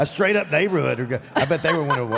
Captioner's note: Michelle laughs